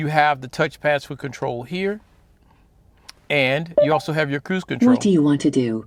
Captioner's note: Mercedes voice